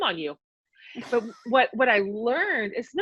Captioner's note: laughs